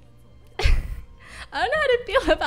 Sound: nervous laughter

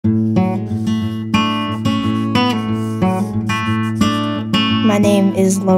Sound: sound of pencil on paper

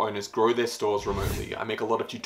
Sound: air whooshing

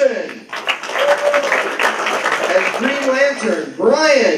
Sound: applause

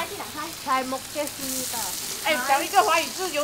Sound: Korean

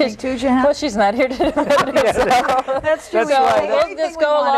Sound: all laugh

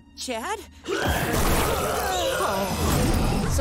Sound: vomiting

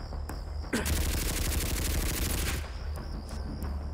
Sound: gun popping

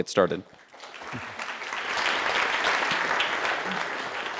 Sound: audience claps

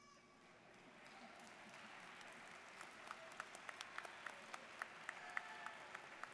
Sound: students cheering and applauding

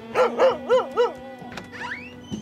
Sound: Dancer barks

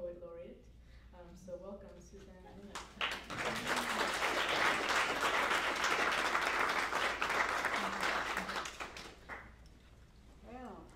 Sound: applause

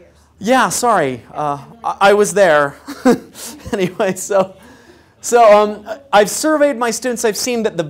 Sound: laugh

